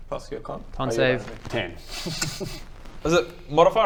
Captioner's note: wry laugh